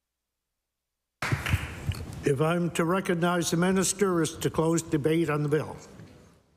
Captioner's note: applause